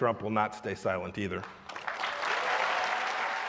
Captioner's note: cheering and applause